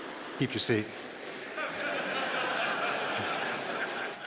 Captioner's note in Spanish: Risas